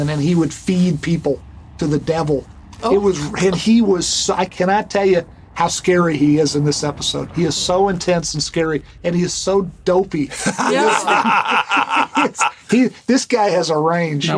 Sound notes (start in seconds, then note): 10.3 laughter